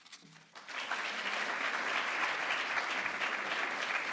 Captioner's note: audience applause